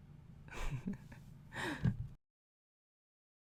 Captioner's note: giggles